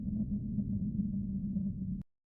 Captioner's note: soft wind